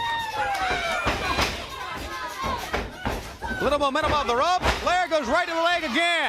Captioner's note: crowd cheering